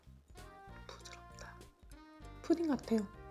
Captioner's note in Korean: 속닥